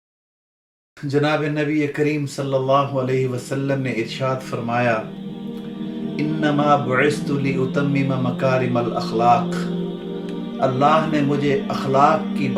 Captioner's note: Arabic